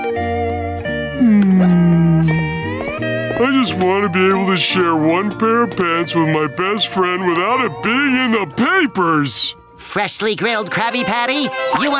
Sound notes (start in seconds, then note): none